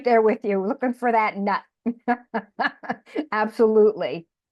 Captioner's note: laughs